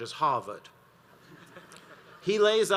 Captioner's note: audience laughs